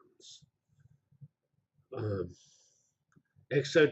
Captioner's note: pause